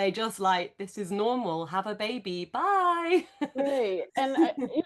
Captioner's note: laughs